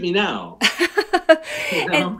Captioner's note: laughing